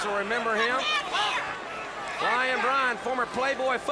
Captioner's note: crowd chatter